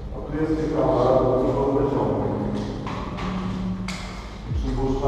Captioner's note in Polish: pogłos